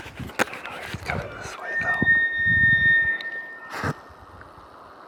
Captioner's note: bull Elk Bugle